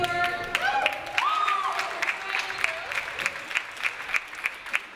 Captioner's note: audience applauds